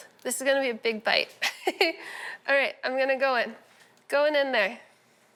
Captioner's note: chuckles